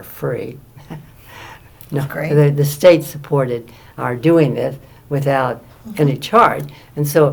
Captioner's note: laughs